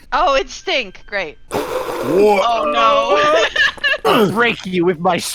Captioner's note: laughter and distress